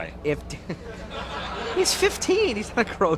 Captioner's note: crowd laughs